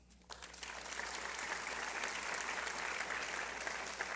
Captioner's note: applause